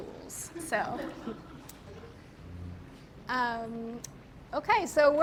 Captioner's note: audience members chuckle